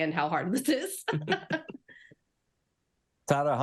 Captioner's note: laughing